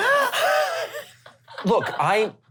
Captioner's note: gasping laughter